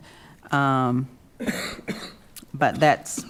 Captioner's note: coughing